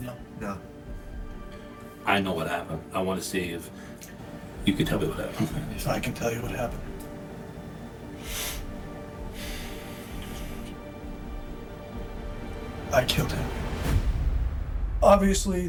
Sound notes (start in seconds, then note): 8.2 deep breath; 9.7 music intensifying